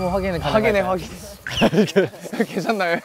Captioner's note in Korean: ㅎㅎㅎㅎ